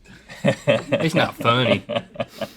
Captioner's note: laughs